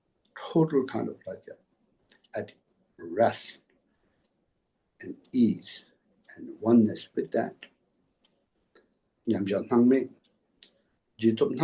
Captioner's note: tibetan